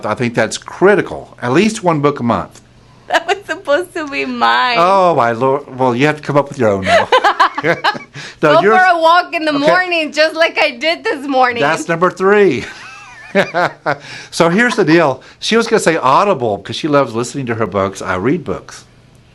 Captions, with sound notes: I think that's critical, at least one book a month. - That was supposed to be mine. - Oh, my Lord. Well, you have to come up with your own now. (both laugh) - Go for a walk in the morning just like I did this morning. - That's number three. (laughs) So here's the deal. She was gonna say Audible 'cause she loves listening to her books, I read books.